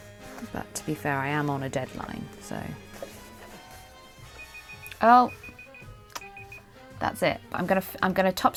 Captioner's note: alarm beeping